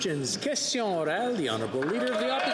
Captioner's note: applause